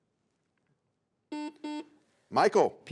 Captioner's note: buzzer sounds